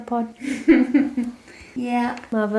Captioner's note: chuckles